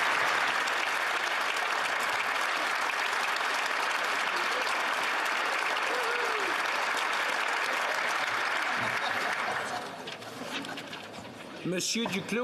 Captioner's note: applause